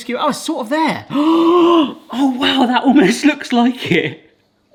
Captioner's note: gasps